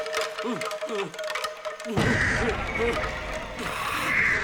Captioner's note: screeching